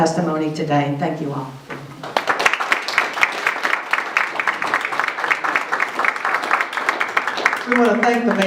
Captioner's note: audience applauding